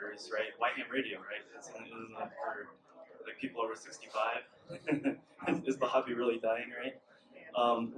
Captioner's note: chuckles